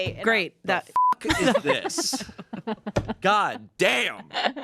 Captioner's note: beep